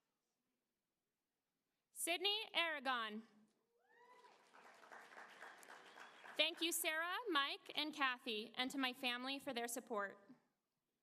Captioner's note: applause